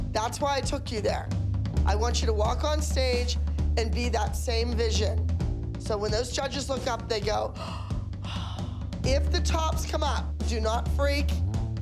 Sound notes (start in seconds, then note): 7.5 gasping